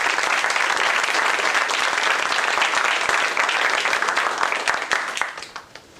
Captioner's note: applause